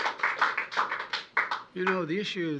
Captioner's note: applause